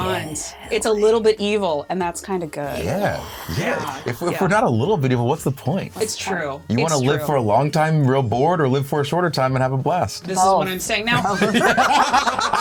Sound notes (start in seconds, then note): 2.9 guests yeah! and sigh; 11.3 uproarious cackling